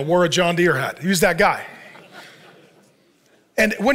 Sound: congregation laughs

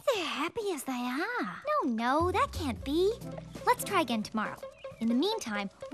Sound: none

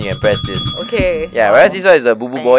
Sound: ring ring

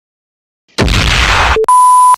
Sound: thud

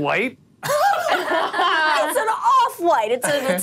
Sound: all laughing

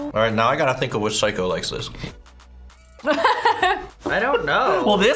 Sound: laughs

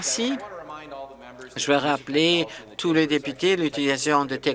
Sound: applause

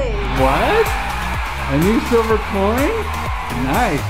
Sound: crowd cheering

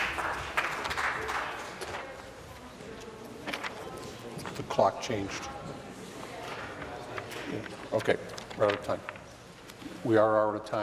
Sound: applause

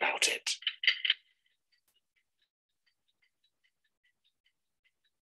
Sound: clock ticking

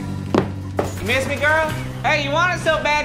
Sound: shoes clomping; door slamming

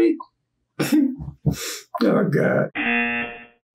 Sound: laughs; buzzer rings

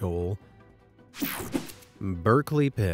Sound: logo whooshing

